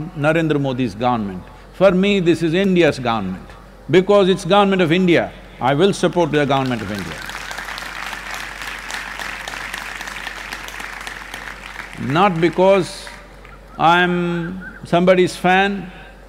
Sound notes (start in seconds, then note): 10.2 applause